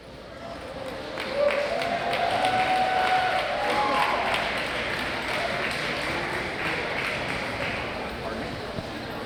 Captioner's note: applause